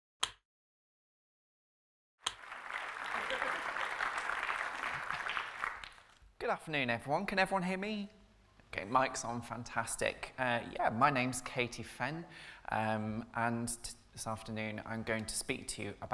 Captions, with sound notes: (applause) - Good afternoon everyone, can everyone hear me? Okay, mike's on, fantastic. Yeah, my name's Katie Fenn and this afternoon I'm going to speak to you